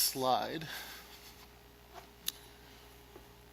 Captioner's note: silence